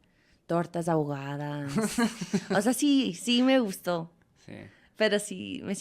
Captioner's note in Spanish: risas